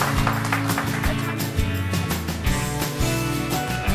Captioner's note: audience applauding; upbeat music